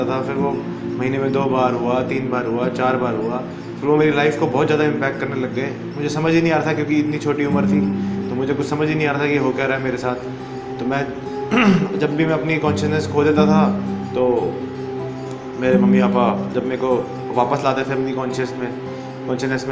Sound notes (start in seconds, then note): 11.5 clear's throat